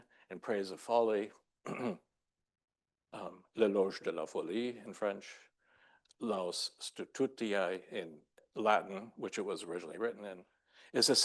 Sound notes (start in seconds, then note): 1.6 clears throat; 3.6 speaking French; 6.6 speaking Latin